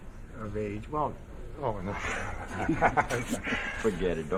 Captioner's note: he chuckles